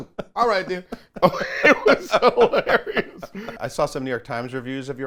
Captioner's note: everyone laughs